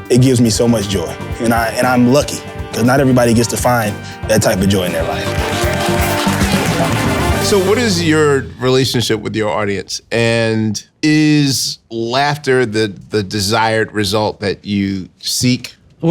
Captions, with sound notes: It gives me so much joy, and I'm lucky 'cause not everybody gets to find that type of joy in their life. (audience applauding) (upbeat music) - So what is your relationship with your audience? And is laughter the desired result that you seek?